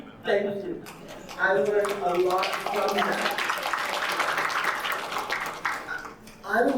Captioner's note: audience applauding